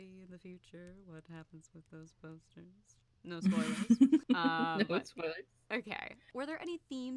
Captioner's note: laugh